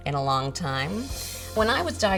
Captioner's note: shimmering whooshing sound